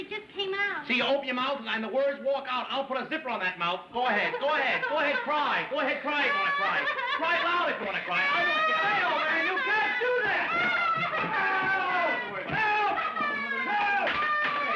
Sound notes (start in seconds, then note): 3.7 Queenie Crying; 10.3 crying Continues